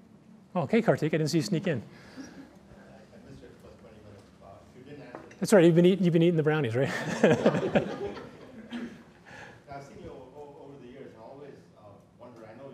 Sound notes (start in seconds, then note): 6.8 laughter